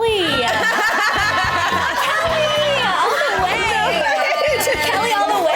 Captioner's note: laughing